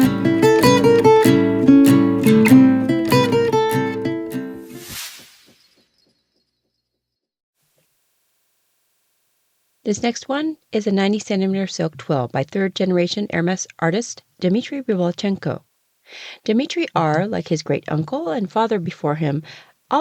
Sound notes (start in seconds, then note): 4.6 sound effect